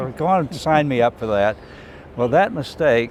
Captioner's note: laughing